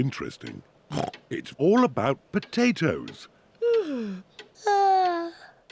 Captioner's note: snorts; yawns